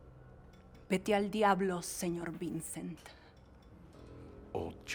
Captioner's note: Lita speaking in Spanish